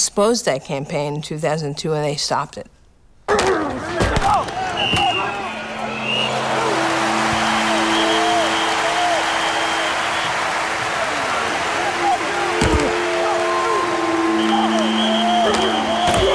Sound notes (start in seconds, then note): 4.1 cheering; 4.6 whistle blowing